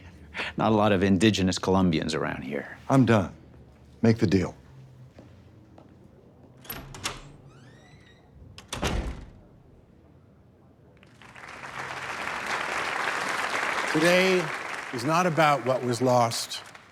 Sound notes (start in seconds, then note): 6.6 door opens and closes; 11.0 applause